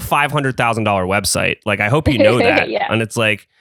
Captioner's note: laughs